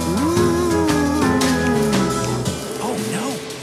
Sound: ghost wailing

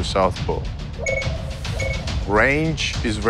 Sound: electronic beeping

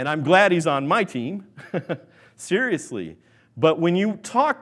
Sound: laughs

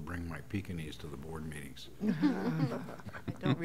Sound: laughter

